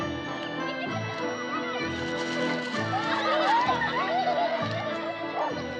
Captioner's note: children Giggling, Laughing